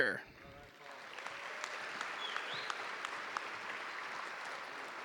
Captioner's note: audience applauding